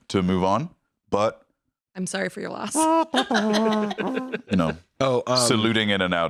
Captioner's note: humming " "